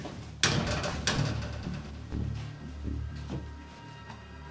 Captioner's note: jail door clangs